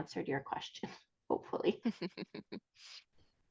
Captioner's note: chuckles